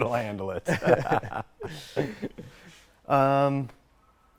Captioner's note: laughs in Toyota